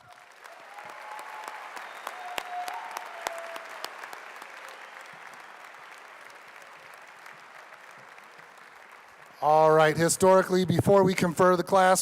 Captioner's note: applause